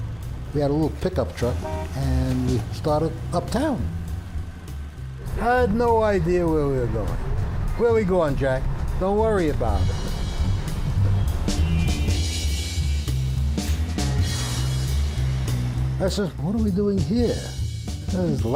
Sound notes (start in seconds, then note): 11.8 car horns blaring; 11.8 upbeat music